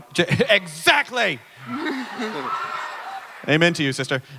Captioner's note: audience cheering